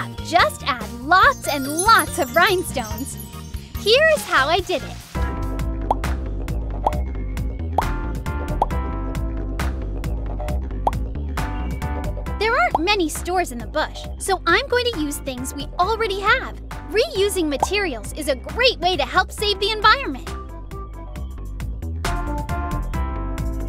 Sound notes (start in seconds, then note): 5.1 upbeat music; 6.3 items make popping sound; 20.8 upbeat music